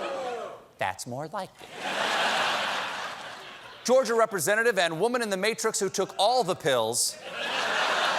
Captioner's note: audience is reacts